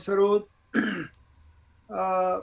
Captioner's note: clears throat